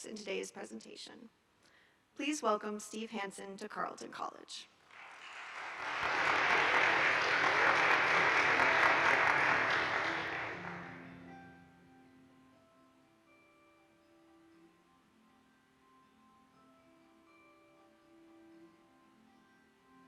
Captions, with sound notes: in today's presentation. Please welcome Steve Hanson to Carleton College. (audience applauding) (gentle guitar music)